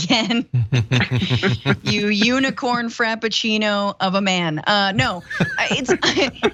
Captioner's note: laugh; laugh